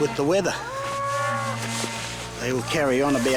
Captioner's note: cows lowing